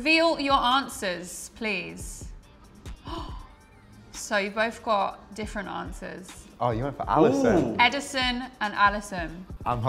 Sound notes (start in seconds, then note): 2.6 gasps